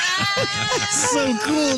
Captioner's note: laughing